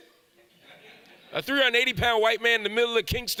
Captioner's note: audience laughs